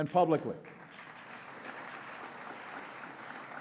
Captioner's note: applause